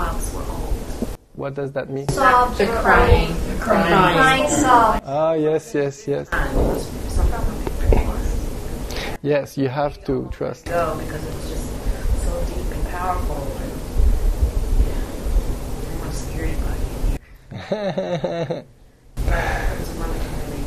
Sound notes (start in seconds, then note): 17.5 laughter